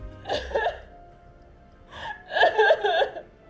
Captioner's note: dramatic music; Kima crying